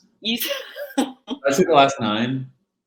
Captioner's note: laughing